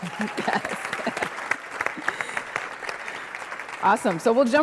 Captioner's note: applause